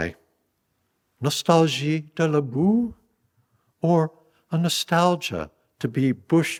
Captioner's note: speaking french